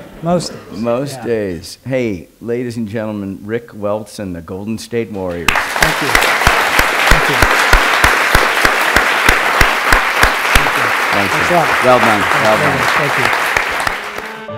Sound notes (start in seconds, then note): 5.4 applause